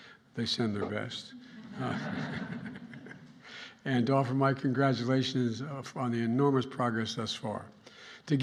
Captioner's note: laughter